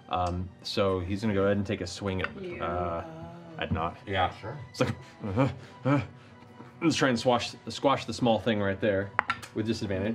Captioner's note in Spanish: murmullos de pánico